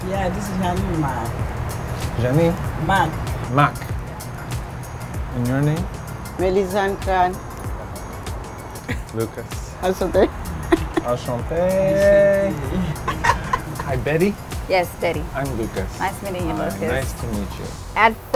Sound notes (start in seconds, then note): 9.9 laughing